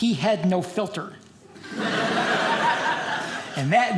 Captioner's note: audience laughing